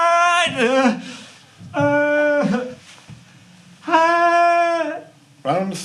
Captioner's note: cries of pain